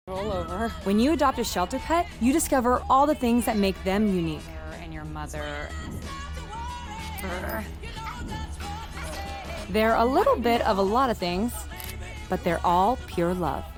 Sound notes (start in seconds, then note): 8.0 grunts